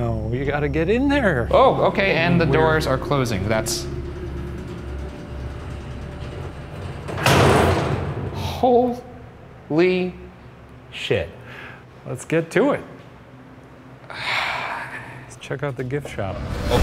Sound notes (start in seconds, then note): 7.1 door slams shut